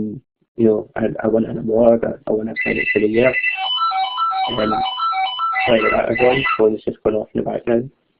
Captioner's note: phone ringing in background